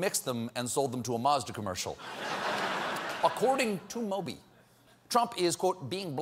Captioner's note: laughter